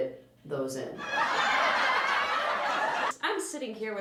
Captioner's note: audience laughter